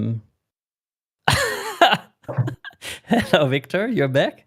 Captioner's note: laughing